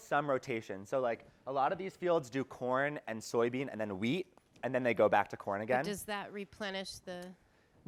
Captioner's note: feminine voice